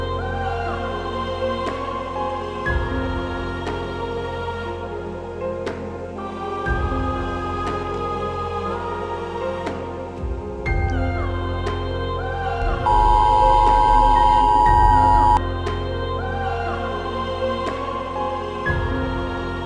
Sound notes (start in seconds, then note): 12.8 emergency Alert System Sound